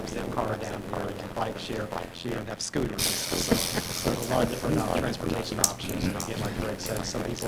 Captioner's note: laughter